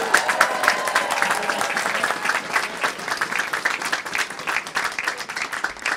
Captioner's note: applause